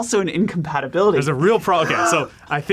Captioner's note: laughs